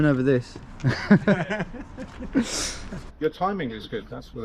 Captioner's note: both laughing